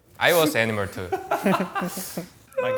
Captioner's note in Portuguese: risos